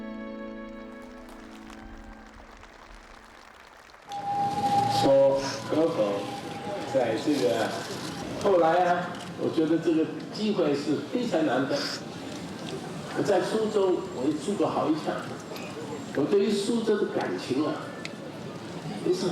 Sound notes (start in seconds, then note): 0.7 cheering and applause; 4.5 Pei speaking chinese